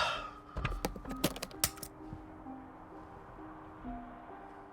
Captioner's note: box clicking; gentle music continues